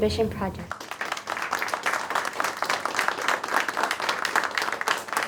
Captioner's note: audience clapping